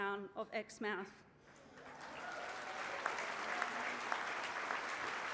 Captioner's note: applause